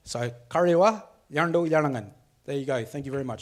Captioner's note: speaks foreign language